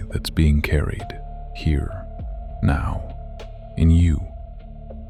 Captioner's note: soft voice